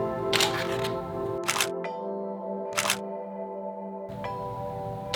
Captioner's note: camera shutters; calm music; camera shutters